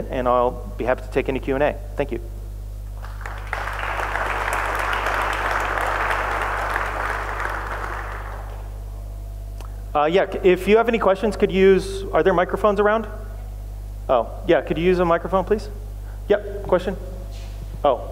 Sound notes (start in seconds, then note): 2.9 applause